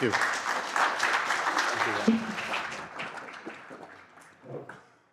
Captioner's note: applause